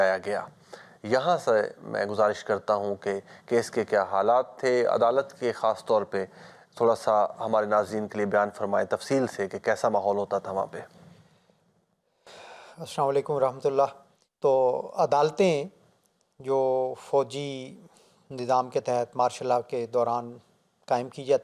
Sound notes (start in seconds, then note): 8.3 Arabic